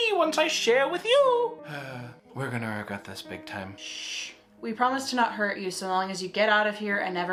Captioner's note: sighs